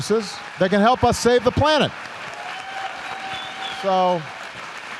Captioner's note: applause